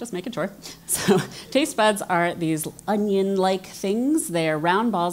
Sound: laugh

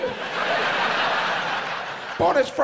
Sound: audience laughs

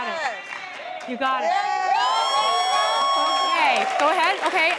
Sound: excited cheering

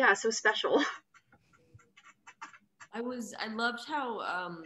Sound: laughs

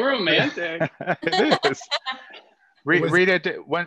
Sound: laugh

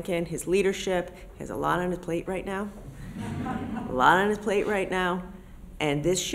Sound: laughter

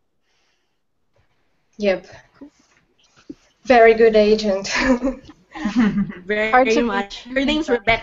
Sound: laughter

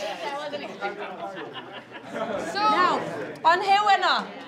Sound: speaking faintly and laughing

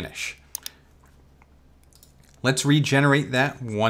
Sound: mouse clicks

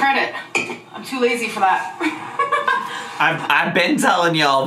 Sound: laughs

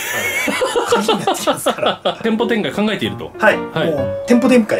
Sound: laughter

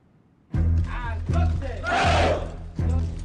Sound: men speaking Spanish

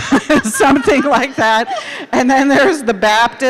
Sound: laughing

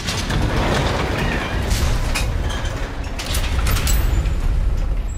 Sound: doors slam; metal door rattles

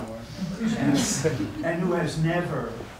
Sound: audience laughing

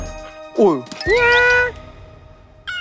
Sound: meow

